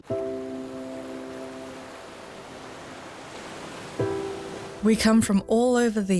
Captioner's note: water rushes; gentle piano music